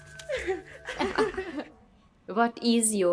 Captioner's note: women laughing